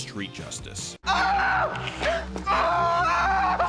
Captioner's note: screams in pain